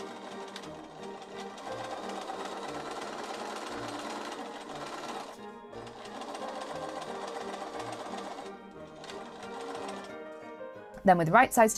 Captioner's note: sewing machine whirrs